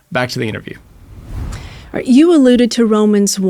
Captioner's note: screen whooshing